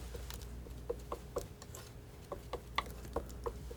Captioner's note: tapping